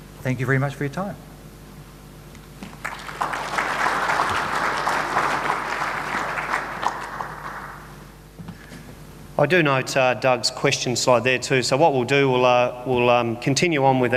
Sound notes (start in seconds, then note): 2.6 audience applauds